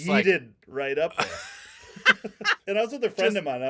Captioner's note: laughing